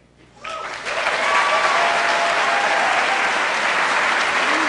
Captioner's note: applause